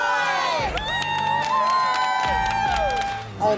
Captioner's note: wives cheer